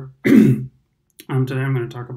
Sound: clears throat

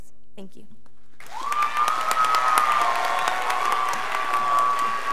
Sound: crowd applauding

